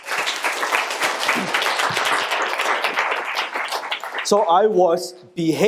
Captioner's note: audience applauding